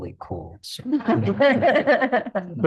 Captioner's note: laughing